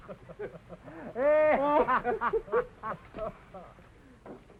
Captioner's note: all laughs